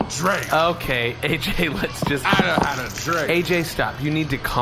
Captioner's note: beer spilling